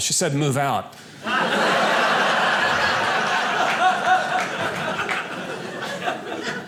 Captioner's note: audience laughing